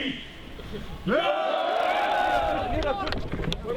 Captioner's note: all cheering